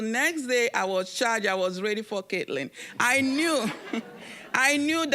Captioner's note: audience laughing